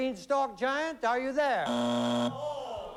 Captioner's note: buzzer